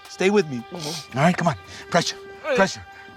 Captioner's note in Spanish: Quejido